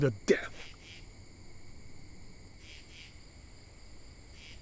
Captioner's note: insects chirping